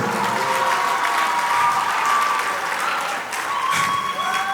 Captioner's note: audience applause